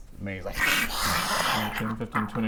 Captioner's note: aarghrrghxrgghrrghaaghghh